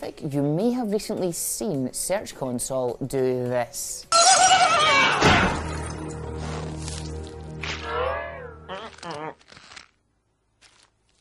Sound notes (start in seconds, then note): 3.8 man screaming; 5.2 thudding